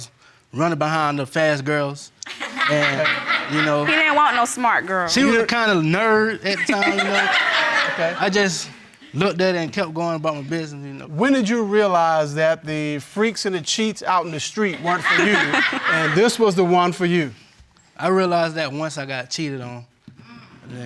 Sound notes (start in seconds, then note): 2.2 crowd laughing